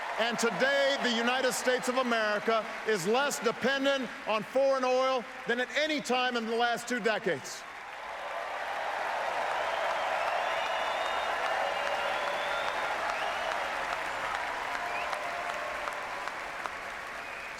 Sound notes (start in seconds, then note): 13.2 applause